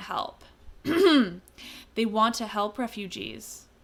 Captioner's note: ahem